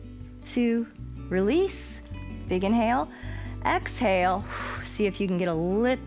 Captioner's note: exhales